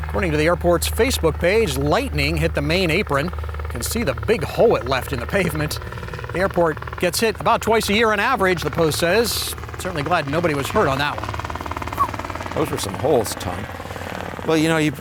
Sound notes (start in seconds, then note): 11.9 whistles